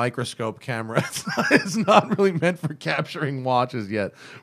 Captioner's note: laughter